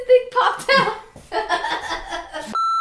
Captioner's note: laughing